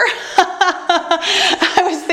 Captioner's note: laughs